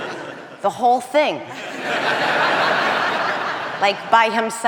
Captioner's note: audience laughing